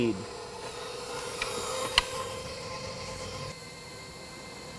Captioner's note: mixer whirring